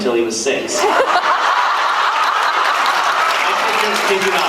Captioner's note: laughs, applauds